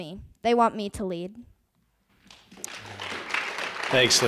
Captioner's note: applause